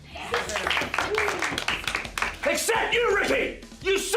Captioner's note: class applauds